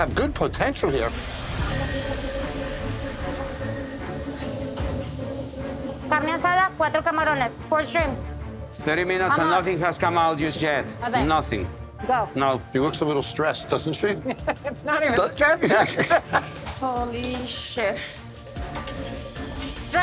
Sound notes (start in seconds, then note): 6.2 speaking spanish